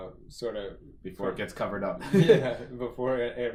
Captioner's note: laughs